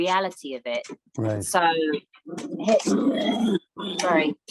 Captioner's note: pig grunts